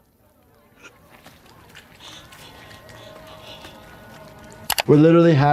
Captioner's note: Peter breathes heavily